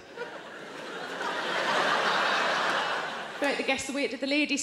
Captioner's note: audience laughs